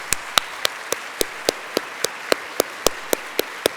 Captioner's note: applause